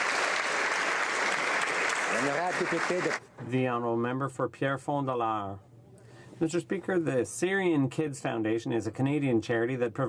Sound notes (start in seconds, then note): 2.4 applause